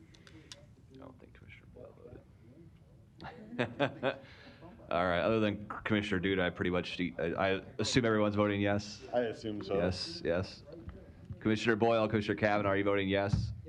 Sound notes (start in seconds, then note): 3.2 laughs